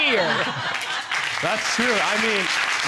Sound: audience laugh

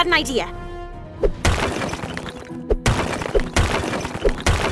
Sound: ice blocks smashing

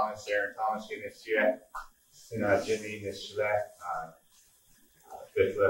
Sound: speaking in a foreign language

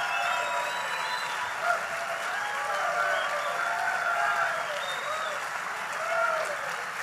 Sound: applause

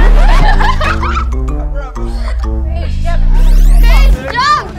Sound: girls laughing; comical music

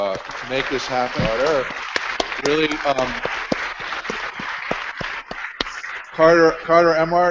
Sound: applause

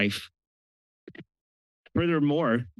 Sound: pause

